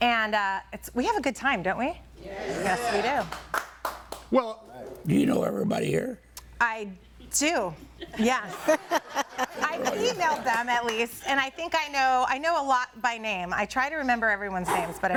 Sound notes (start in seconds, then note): 3.2 audience applauding; 8.0 all laughing